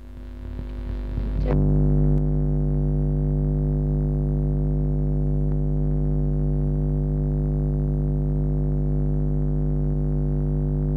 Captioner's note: noise in mp3